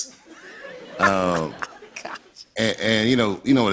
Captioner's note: laughter